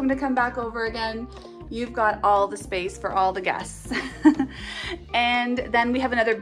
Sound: chuckling

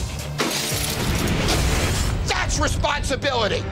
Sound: bottles shatter

